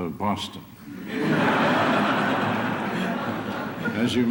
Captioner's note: laughter